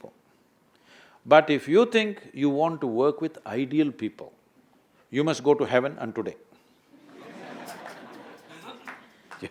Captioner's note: laughter